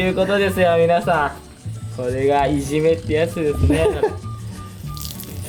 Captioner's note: laughs